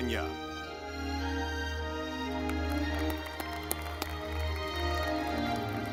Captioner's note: audience clapping